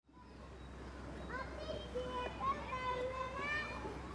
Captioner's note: kids distant chattering